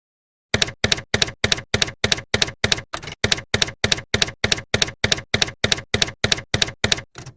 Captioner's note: typewriter keys clacking